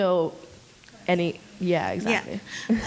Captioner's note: mumbles